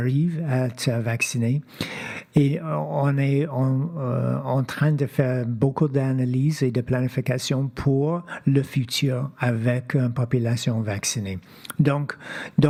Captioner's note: speaking French